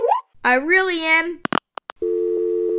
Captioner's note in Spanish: Clic